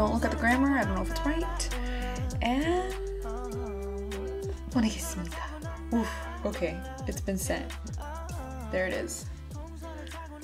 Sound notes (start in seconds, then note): 5.0 speaks Korean